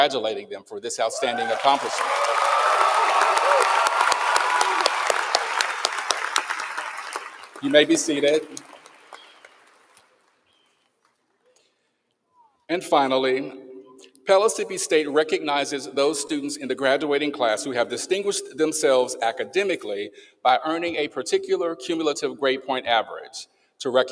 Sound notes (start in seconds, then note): 8.6 applause